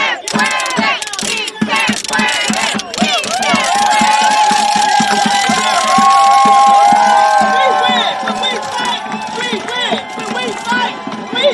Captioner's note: cheering